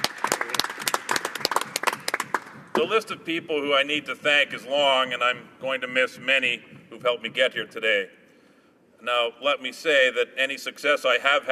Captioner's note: applause